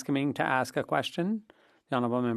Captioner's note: speaking French